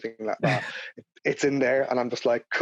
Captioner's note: laughing